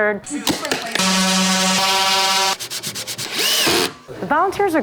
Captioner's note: tools clicking, whirring